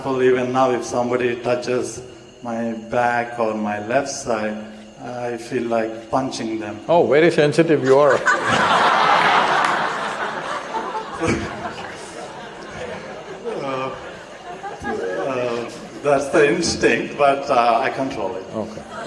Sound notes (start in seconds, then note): 11.2 laughter; 18.7 laughter